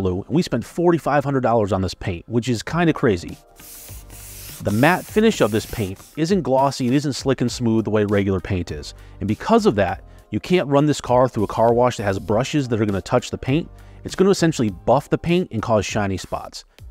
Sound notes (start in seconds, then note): 3.5 hand sliding